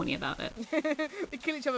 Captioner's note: laughs